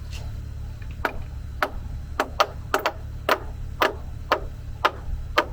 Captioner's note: hammers banging